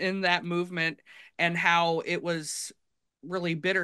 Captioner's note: none